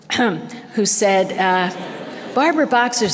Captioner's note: scoffs; audience laughter